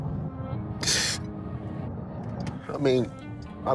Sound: sobs

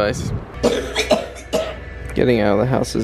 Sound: coughing

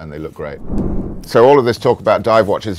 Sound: graphic whooshes

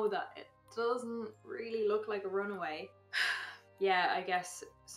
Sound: sigh

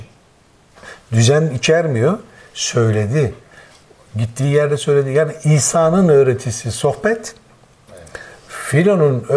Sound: conversation

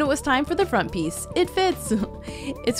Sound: laughs

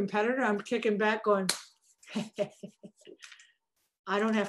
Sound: claps hands

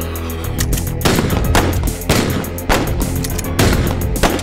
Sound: guns firing

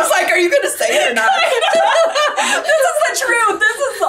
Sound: both laughing

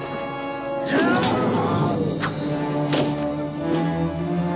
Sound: hitting; yelling

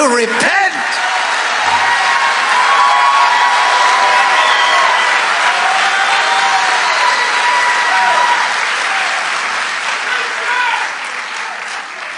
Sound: congregation cheering

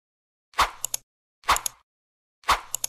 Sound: whoosh and click

